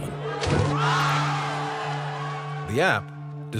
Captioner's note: crowd shouting